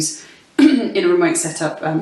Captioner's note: clears throat